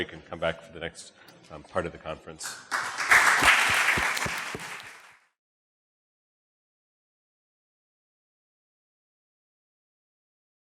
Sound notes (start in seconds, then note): 2.4 audience applauding; 2.8 microphone thudding